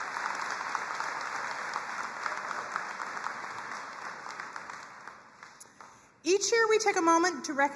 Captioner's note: crowd cheering and applauding